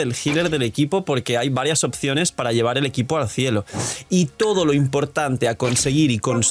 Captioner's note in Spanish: resoplido